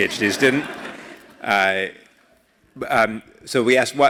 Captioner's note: laugh